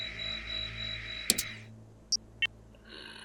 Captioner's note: scanner Stops